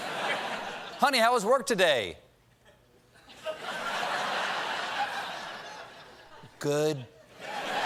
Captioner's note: laughter